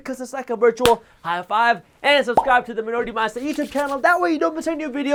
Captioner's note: clap